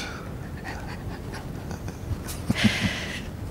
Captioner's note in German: lacht